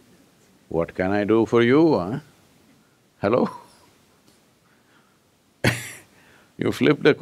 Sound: laughs

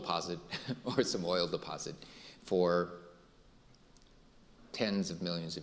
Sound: laughing

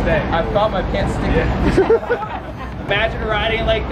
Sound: laughs

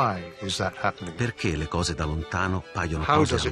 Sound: speaking Italian

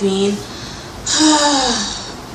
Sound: exhales unusual amount of air

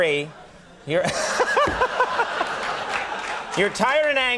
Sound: laughter

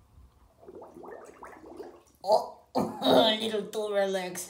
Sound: a watery fart

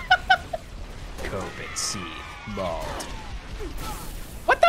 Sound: deep, dramatic voice

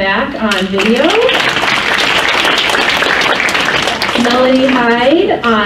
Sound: crowd applauds

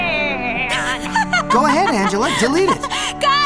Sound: laughing

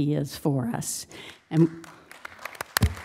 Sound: applause

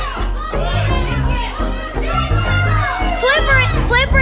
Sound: audience shouting

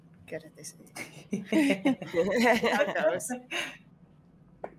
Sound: all laughing

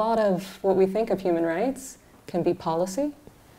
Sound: none

